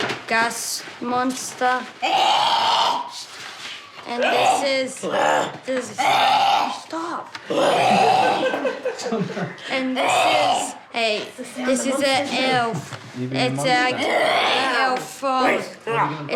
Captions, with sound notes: gas monster. (GROWLS) Shh. And this is— (GROWLS, SNARLS) (GROWLS) Stop! (SNARLS) (LAUGHTER) And this is a... This is an elf. Are you being a monster? It's like an elf from...